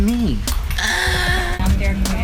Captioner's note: gasps; passengers speaking